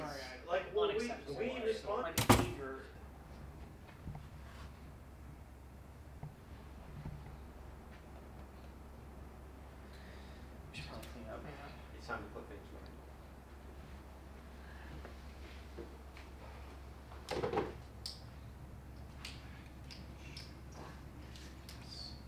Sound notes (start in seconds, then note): 2.2 door slams